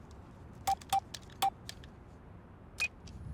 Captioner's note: beeping